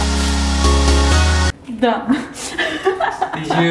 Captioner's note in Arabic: يضحك